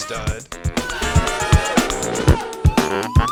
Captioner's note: crowd boos